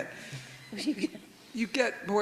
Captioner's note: everyone chuckles